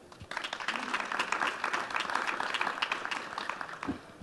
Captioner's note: audience applauding